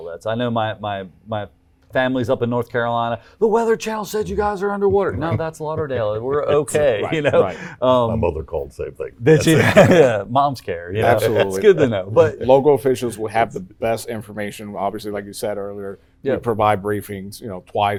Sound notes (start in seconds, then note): 9.3 laughs